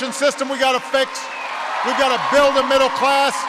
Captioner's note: applause